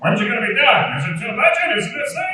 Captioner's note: speaks in mocking tone